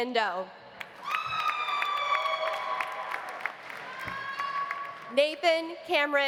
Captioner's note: audience applauding; audience cheering